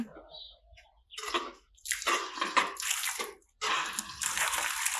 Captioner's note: water sputters